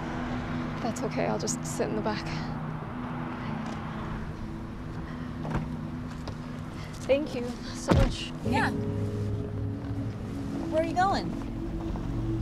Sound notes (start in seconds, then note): 5.2 door unlatching